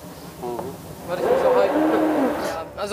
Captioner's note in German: Motorheulen